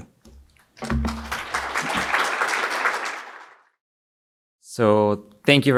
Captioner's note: audience applauds